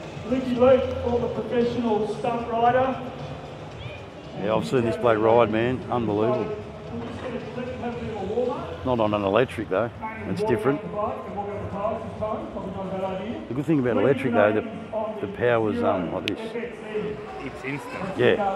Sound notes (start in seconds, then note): 16.5 fingers snapping